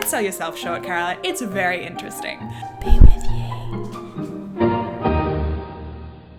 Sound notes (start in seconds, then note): 3.0 whispered